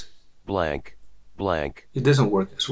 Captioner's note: automated Voice